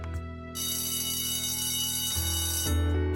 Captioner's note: ringing